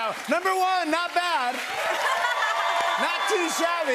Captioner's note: cheers and applause